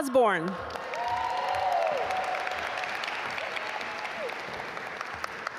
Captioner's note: audience applaud